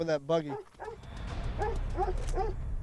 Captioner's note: dog barking